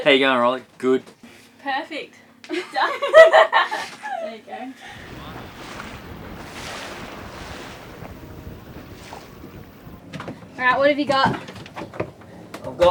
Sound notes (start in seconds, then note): 2.5 laughter; 6.5 waves lapping